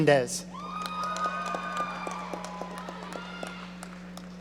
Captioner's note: audience cheering